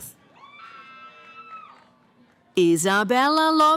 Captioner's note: cheering